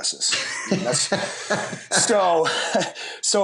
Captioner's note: laughter